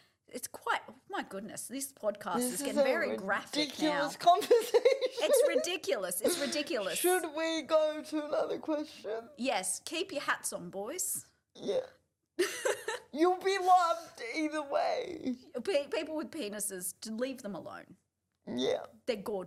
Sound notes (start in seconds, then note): 12.4 laughs